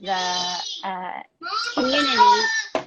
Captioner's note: yelling in background